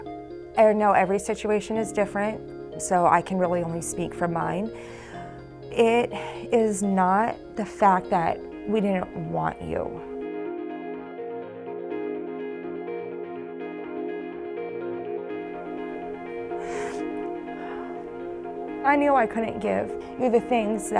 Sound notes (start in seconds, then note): 16.4 inhales